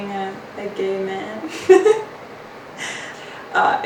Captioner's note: laughs